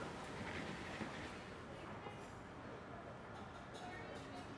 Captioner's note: muffled chatter